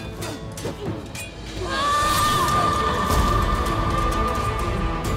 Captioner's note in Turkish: Bağırıyor